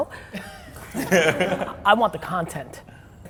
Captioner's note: laughs